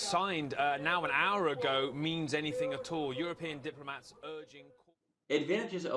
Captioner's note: news story plays with audio